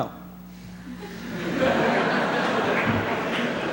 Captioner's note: laughter